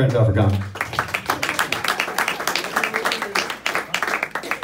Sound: applauding

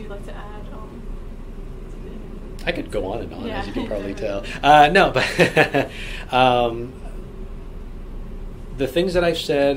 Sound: laughs

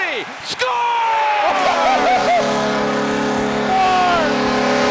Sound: buzzer beating

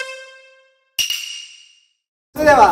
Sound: now serious

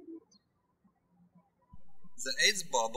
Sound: birds chirping

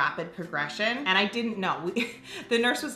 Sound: laughs

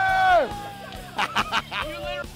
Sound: laughter

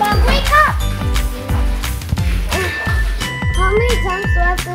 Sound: splashing

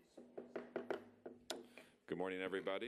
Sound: gavel banging

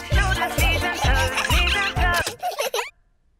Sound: giggling; music stops

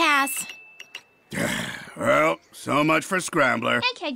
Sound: sigh

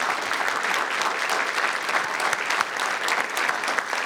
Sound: audience applauding

